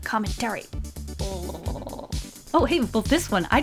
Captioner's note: growls like a velociraptor